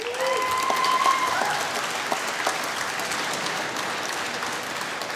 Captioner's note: applause